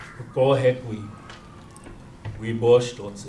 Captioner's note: non-english speech